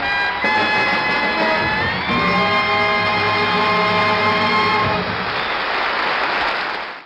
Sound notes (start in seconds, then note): 5.0 applauding continues